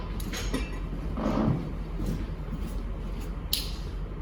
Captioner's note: clattering